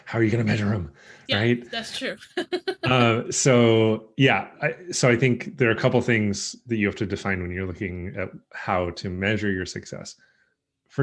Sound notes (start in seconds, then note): 1.8 laughs